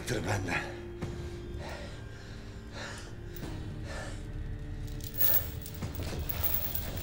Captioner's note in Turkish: Nefes sesleri